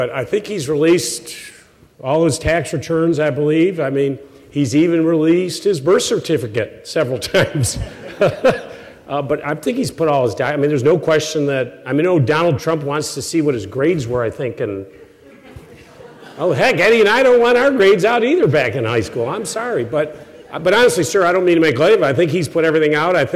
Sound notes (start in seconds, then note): 7.5 chuckles